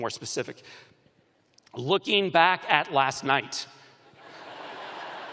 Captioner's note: laughter